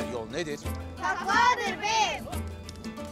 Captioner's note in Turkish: Hep bir ağızdan